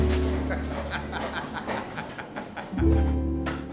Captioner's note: laughing; gentle slow music